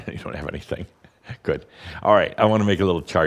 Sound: Adamus chuckles

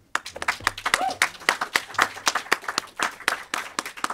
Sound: audience claps

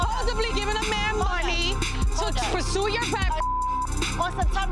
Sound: beep

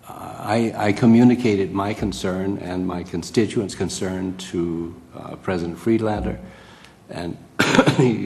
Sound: cough

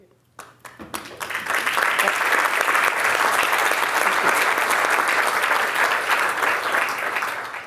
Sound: applause

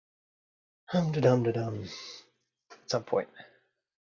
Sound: murmurs

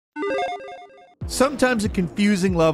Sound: electronic beeping

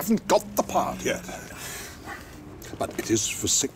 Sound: sighs

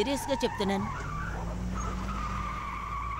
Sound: tires screeching

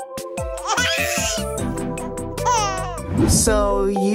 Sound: laughs

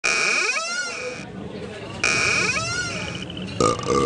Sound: doors creaking; man burps

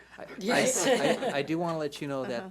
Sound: board laughs

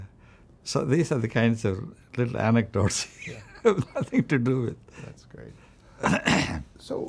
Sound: laughs

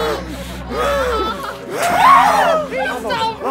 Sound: audible gasping; harrowing music

